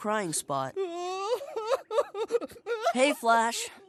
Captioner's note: crying